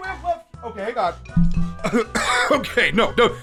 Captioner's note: taps mic and clears throat